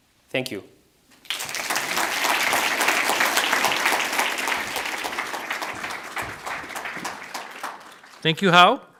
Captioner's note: audience applauds, exits stage